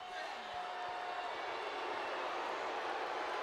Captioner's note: crowd boos